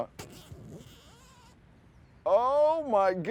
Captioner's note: zipper buzzing